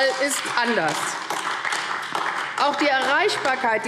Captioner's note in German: Beifall AfD